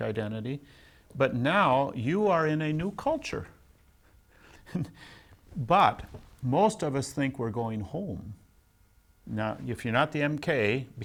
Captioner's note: laughs